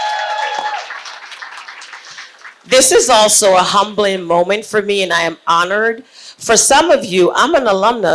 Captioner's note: applause